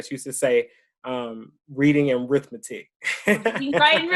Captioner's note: laughs